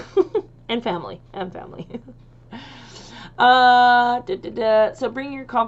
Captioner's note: chuckles; chuckles